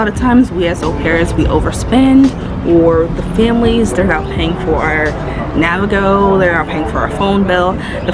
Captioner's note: metro passes